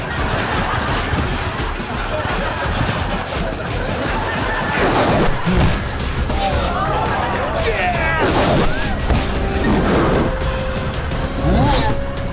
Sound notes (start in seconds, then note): 7.1 grunting